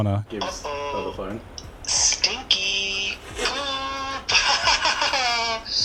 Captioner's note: laughs